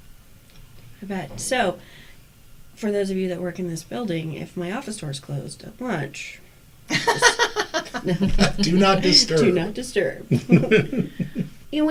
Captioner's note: all laugh